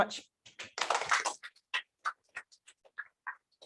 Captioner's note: applause